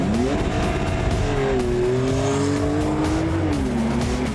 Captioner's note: engine revving